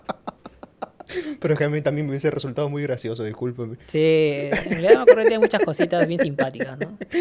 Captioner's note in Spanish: risas; risas